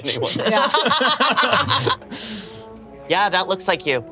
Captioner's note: group laughs